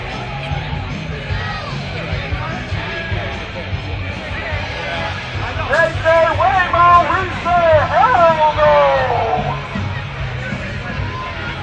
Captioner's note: shouting